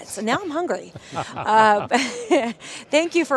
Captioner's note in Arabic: ضحك